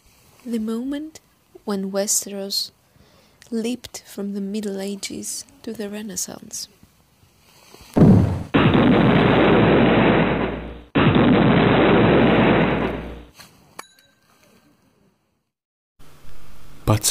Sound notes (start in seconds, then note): 7.9 explosions; 13.8 the bike bell is ringing